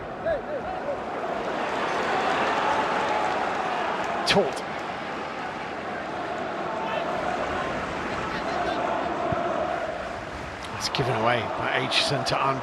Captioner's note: audience oohs